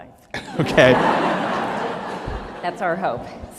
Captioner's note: laughter